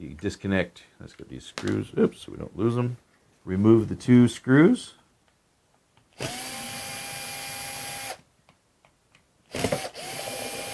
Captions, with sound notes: So you disconnect, let's get these screws, oops, so we don't lose 'em. Remove the two screws. (screwdriver whirs)